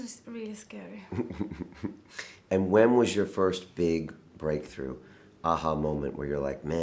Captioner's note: laughing